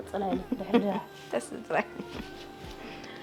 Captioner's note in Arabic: يضحك